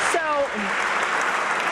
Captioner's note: applause